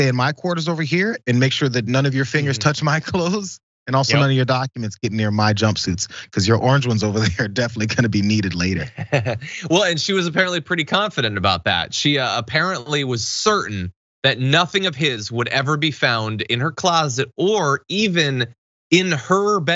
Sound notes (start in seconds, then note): 9.3 laugh